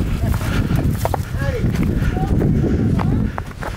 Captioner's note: wind blowing